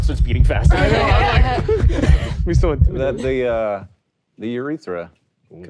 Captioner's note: players laughing